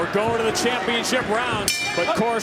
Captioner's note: bell dings